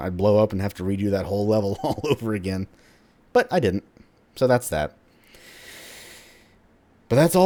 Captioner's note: chuckles